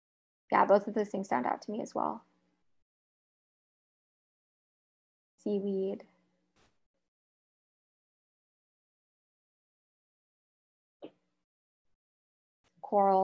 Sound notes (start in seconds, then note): 5.2 silence